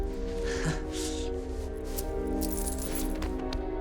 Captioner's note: rustling of coins in pocket